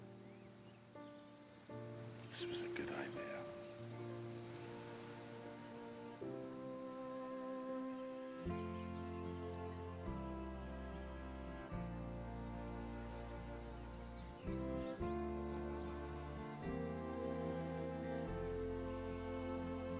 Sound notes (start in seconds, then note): 4.4 birds chirping; 4.4 gentle music